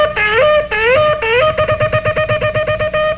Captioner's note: horn blowing